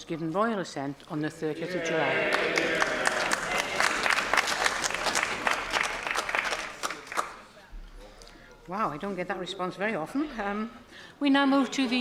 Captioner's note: applause